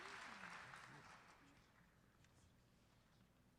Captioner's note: applause